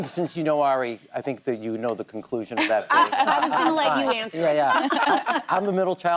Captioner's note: laughter